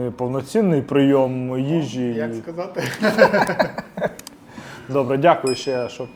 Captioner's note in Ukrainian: сміх